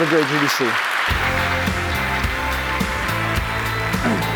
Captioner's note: applause